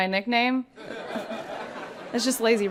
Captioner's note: people laughing